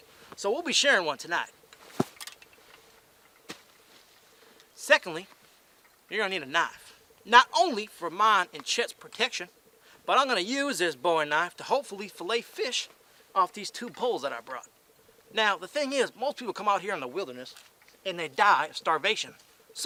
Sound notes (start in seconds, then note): 3.5 sleeping bag thudding